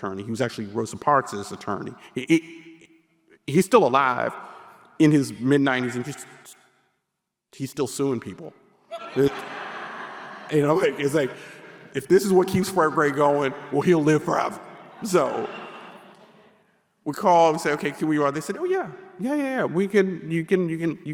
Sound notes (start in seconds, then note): 8.9 audience laughing; 14.5 audience laughing